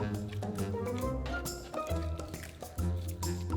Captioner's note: mashing tofu